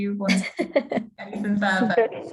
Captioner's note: laughing